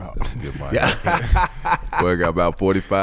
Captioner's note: laughing